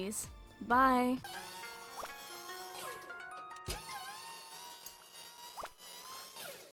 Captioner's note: game noises